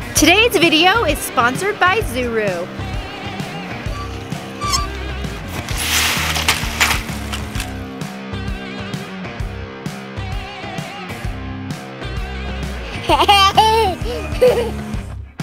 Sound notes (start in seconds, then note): 3.8 squeaking; 3.9 upbeat music; 5.8 water rushing; 8.5 upbeat music; 12.9 laughter